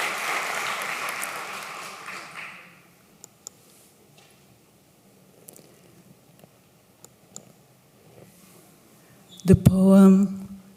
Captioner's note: applause